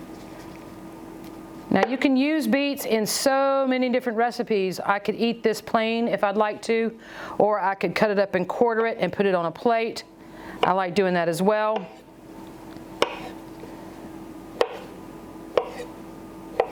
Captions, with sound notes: Now you can use beets in so many different recipes. I could eat this plain if I'd like to or I could cut it up and quarter it and put it on a plate. I like doin' that as well. (slicing)